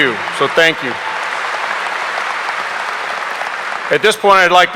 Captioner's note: audience applauding